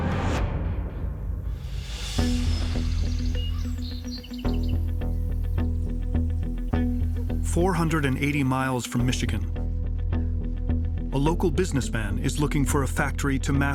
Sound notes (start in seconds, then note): 2.2 birds singing